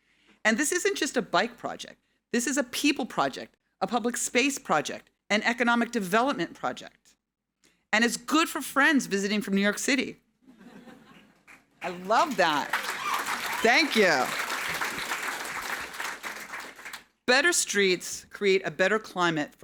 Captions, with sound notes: And this isn't just a bike project. This is a people project, a public space project, an economic development project. And it's good for friends visiting from New York City. (audience laughing) (audience clapping) I love that. Thank you. Better streets create a better climate